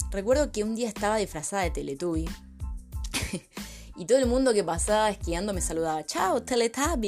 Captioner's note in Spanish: risas